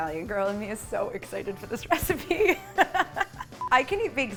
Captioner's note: laughs